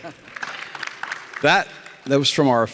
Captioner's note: audience applauding